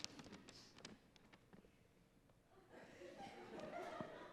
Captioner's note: paper rustling